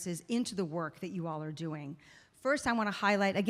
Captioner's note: none